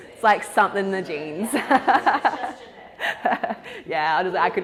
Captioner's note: laughs